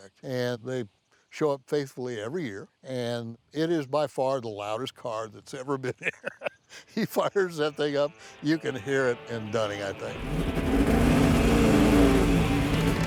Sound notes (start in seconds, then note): 5.8 laughs; 11.0 upbeat music with engine racing